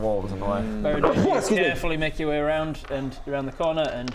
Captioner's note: atchoo!